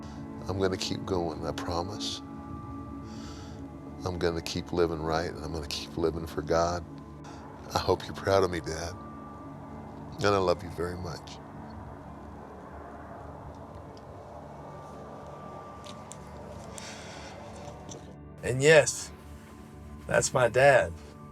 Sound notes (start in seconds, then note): 13.3 soft music; 13.3 softly sobbing